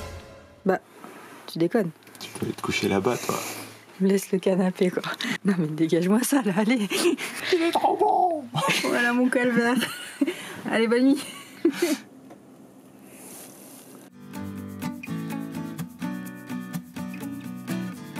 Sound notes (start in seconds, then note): 6.8 laughter